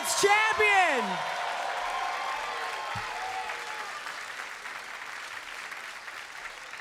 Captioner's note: crowd cheers and applauds